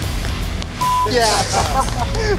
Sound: beep

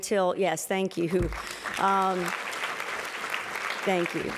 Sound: applause

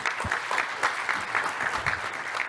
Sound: applause

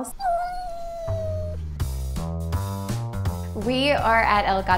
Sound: cat whining

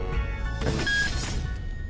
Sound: electronic beep

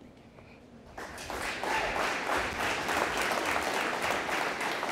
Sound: audience applauding

